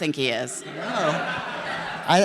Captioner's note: the audience laughs